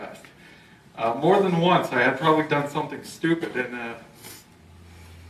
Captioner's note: sniffle